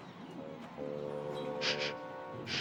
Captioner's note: sniffles